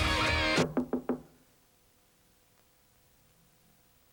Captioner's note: knock on door